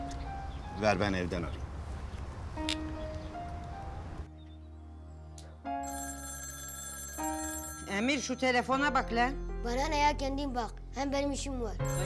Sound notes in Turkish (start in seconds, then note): 5.8 Telefon çalıyor